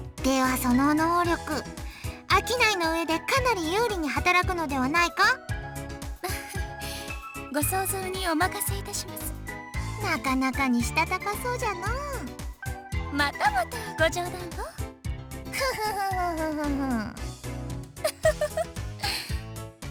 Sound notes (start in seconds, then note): 6.2 chuckle; 18.0 mischievous chuckle